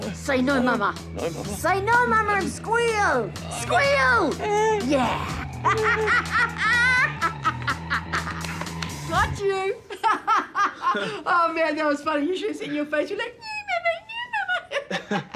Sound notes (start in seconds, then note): 5.2 cackles; 6.2 squeals weakly; 9.8 laughs; 10.5 chuckles; 13.4 chuckles